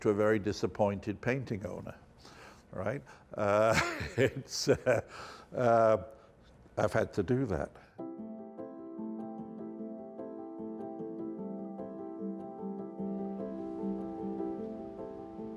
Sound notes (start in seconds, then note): 3.6 chuckling; 8.0 thoughtful music